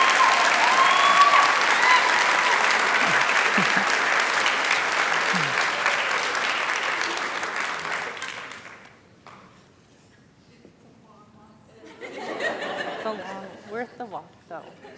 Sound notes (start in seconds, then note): 10.1 chatter